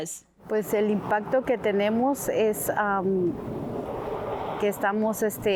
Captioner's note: speaking Spanish